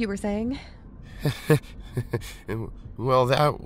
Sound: nervous laugh

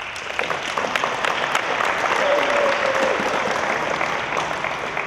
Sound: applause

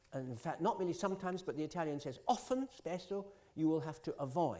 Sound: italian

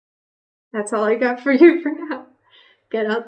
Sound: laughs

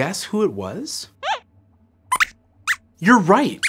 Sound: squeaks squeaks

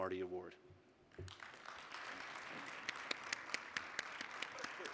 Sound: applause

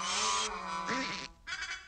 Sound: laughing

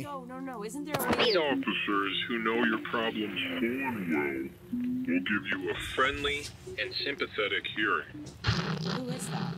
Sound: radio

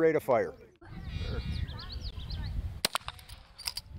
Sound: gun fires

